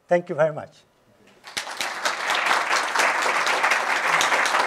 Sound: applause

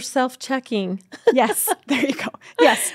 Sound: laughs

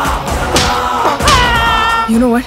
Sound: screams

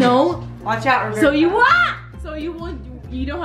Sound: screams

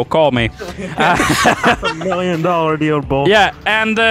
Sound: group laughter

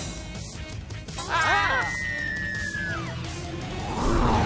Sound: all screaming

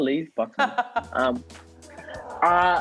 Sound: laughter

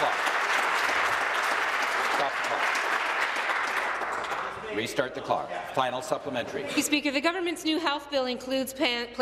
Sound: applause

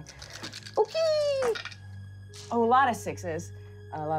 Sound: rolling dice

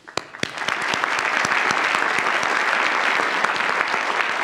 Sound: audience applauds; claps

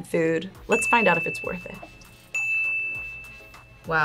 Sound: ding

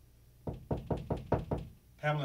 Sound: soft knocking

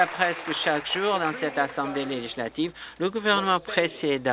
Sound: applause

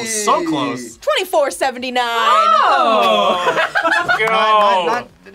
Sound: laughs

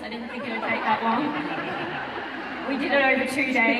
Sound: audience laughing

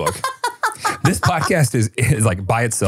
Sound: laughing

